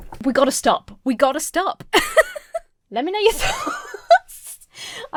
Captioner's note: laughing